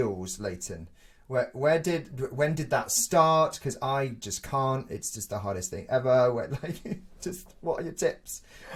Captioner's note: laughs